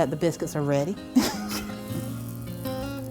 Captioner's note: laughs